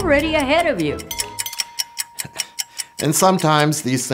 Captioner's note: DING DING !!! Ticking Clock